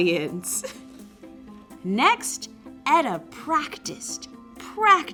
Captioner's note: laugh